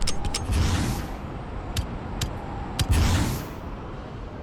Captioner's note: wind gushing